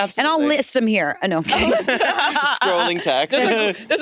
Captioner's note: laughs